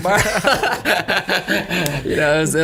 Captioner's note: laughs